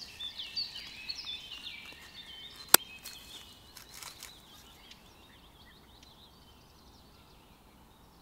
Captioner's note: the sound of the scissors when we cut the rootstock